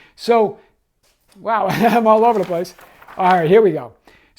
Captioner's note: chuckles